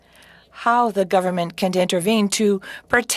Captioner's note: speaking french